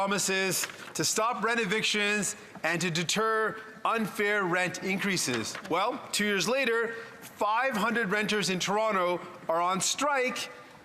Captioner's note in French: voix de l'interprète